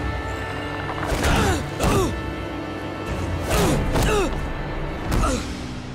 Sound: groaning

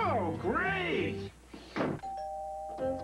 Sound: doorbell

